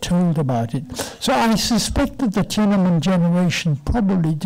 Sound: foreign language

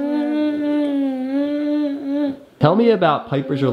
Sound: humming

